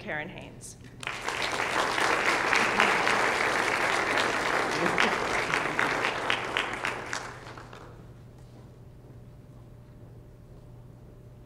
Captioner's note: applause